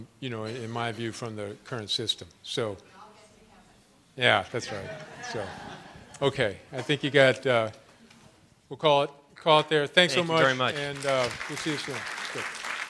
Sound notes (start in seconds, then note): 4.7 laughter; 10.2 applause